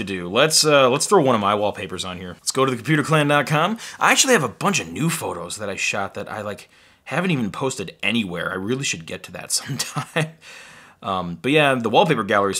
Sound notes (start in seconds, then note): 9.6 laughs